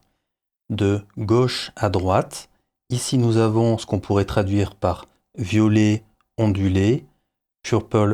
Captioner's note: french